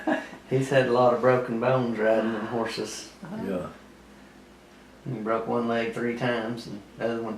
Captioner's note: laughter